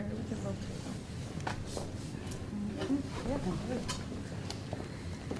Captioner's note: quiet talking in the audience